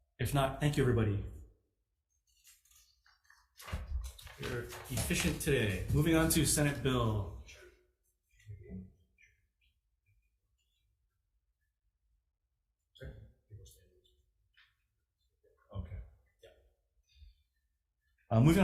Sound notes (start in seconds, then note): 2.2 papers rustling; 10.5 faintly speaking